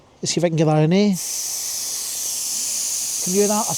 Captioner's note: buzzing noise